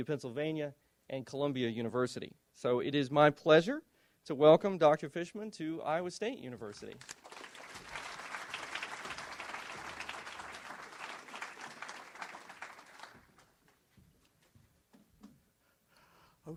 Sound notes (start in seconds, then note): 7.0 audience applauds